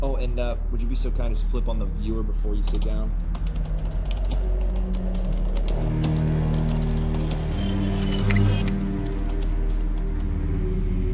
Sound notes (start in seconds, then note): 4.8 eerie music; 4.8 monitors whirring